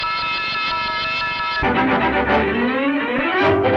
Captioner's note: bell ringing; bright orchestral music